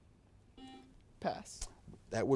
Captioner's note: buzzer beeps